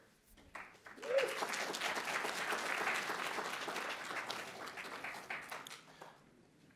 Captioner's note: audience applauds